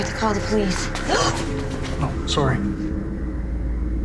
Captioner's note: gasps